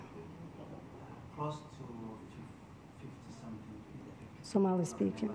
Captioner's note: faintly speaking